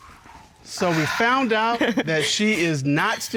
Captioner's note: chuckling